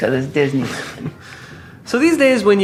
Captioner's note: interviewer laughs